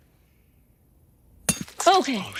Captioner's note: hammer clinking